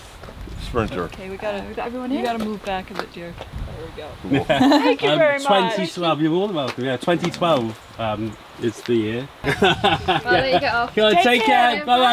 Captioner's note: chatting